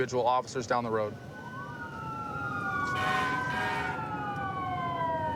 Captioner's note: emt sirens blaring